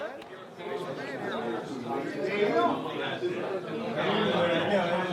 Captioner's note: people talking